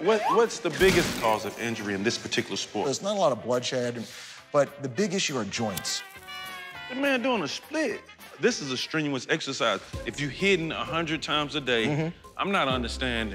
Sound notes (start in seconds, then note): none